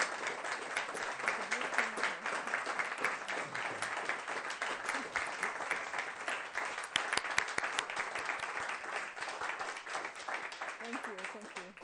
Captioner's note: applause